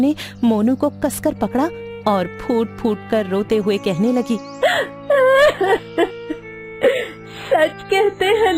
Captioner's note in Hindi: हंसी